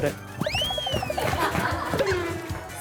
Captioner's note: running